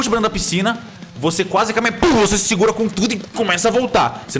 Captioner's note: pow